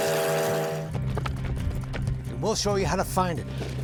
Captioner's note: train whistling; horses galloping